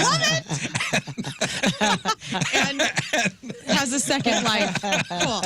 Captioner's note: laughing